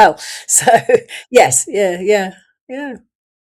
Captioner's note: laughs